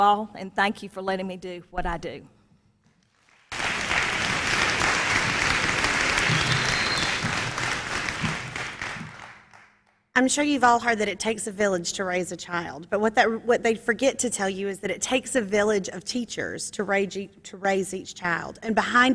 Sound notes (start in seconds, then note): 10.8 applause